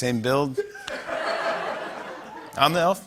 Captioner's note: laughter